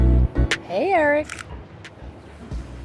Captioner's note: camera shutter